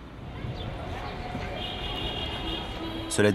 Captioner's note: urban noises